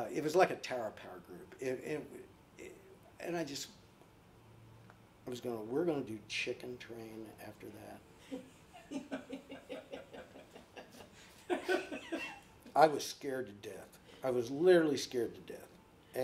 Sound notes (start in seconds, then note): 8.2 laughing